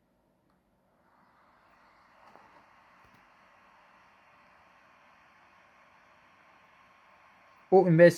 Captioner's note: laptop fan noises